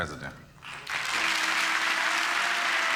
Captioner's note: applause